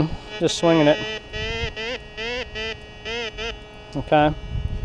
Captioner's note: detector beeps